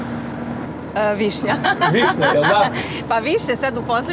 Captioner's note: laughing